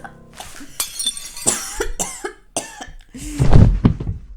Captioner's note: cough